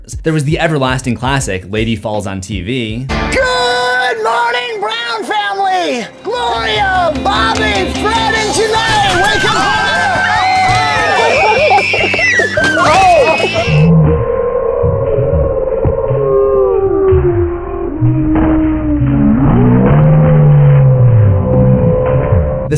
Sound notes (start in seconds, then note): 8.9 excited screams; 8.9 slow motion roar